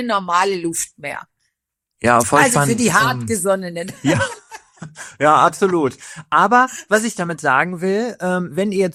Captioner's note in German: gelächter